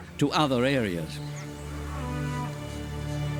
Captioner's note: cows lowing